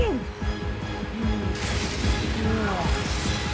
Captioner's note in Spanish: Golpes; Quejidos